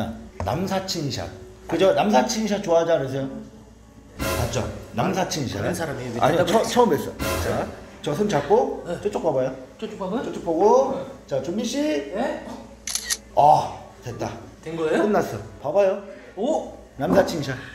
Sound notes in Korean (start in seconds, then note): 12.8 찰칵